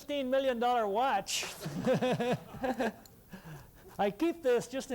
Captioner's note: laughter